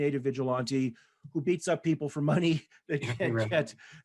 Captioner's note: chuckles